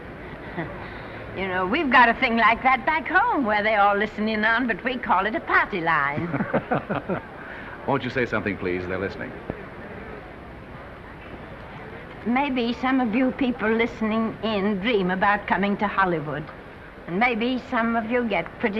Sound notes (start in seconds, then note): 8.5 laughing